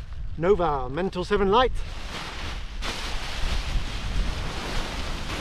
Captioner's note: paraglider crinkling